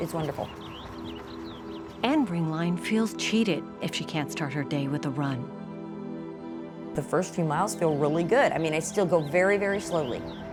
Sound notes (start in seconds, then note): 1.8 birds chirping; 6.6 ominous music